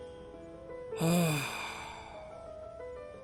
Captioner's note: sigh